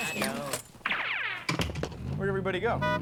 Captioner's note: door closes